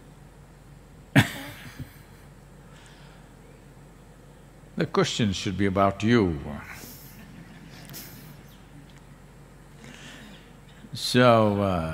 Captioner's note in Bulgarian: Смее се